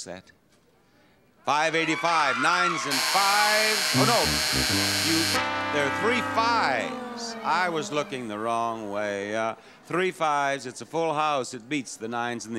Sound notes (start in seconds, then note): 2.7 tuba toots; 2.8 buzzer honks